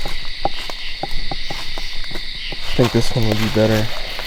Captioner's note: knockS